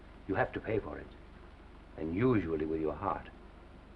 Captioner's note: none